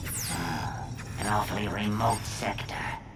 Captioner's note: none